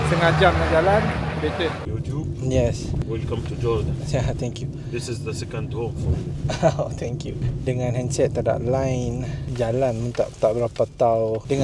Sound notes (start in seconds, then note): 6.8 laugh